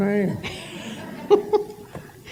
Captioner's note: laughter